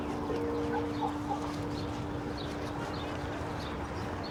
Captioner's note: soft dramatic music; birds chirping